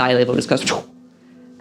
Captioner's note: woosh